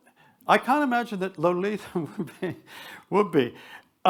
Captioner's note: chuckles